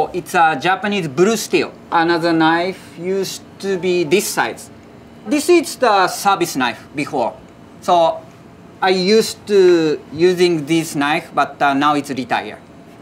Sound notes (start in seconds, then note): 3.6 text chiming